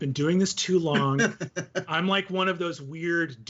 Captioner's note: laughing